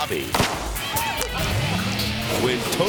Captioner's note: explosion bangs; people shouting